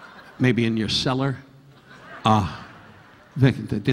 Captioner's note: audience laughing; audience laughing